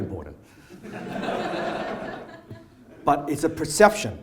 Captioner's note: audience laughs